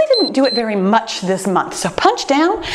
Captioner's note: timer beeps